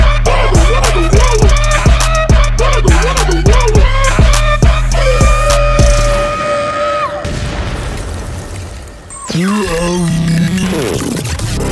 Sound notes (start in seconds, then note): 7.0 booooooom; 8.8 glitching sound